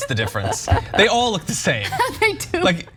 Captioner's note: laugh